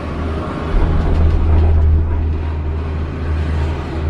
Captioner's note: machine roaring